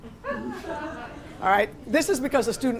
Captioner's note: laughter